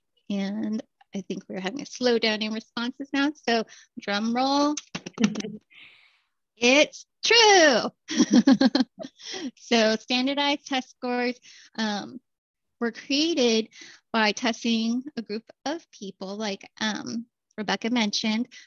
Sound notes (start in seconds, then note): 8.0 laughter